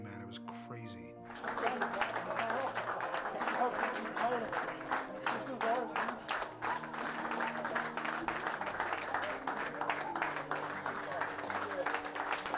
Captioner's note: applause